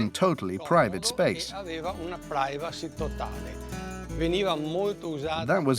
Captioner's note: Italian spoken audio